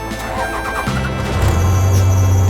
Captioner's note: truck engine roaring; truck engine starting